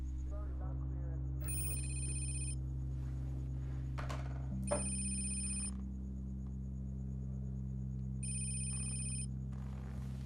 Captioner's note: phone rings